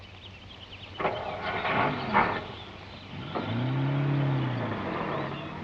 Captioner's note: engine revving